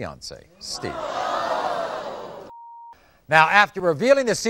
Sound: audience screaming

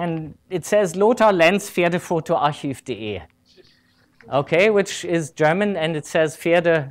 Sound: speaking german

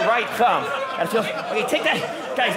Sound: audience laughing

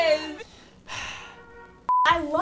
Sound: exhale

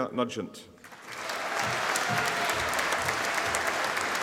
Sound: audience applauding

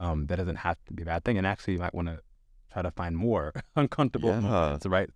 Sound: laughs

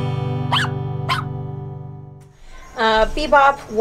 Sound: barking

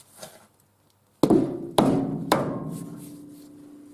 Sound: bang - Bang - Bang

